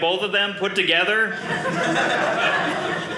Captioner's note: audience laughing